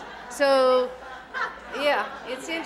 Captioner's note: audience laughing